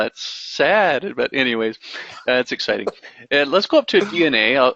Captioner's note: chuckling